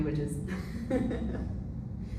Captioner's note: laughs